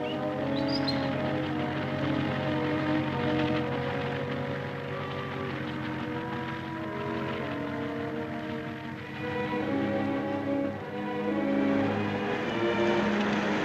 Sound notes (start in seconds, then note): 4.2 suspenseful music; 4.2 tractor rumbling; 11.8 soft music